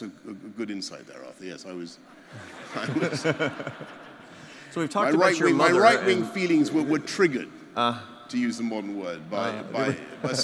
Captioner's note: laughter